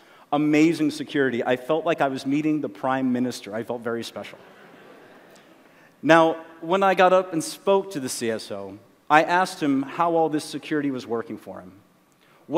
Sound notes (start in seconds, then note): 4.4 laughter